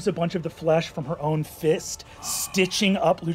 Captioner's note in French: halète